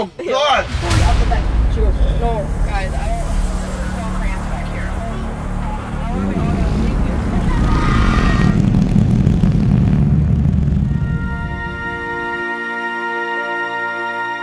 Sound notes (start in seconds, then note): 4.9 intense music; 6.7 fart sounds; 10.9 heavenly music